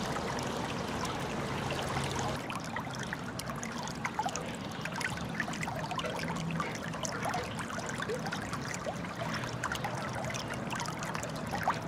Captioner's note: water sounds